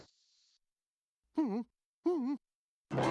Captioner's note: whimpers